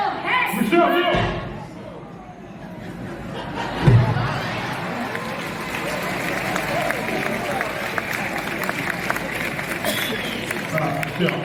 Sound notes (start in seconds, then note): 3.1 audience laughs; 4.2 audience claps